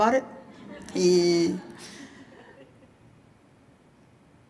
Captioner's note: audience chuckling